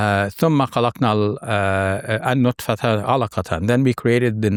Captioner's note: speaks verse in Arabic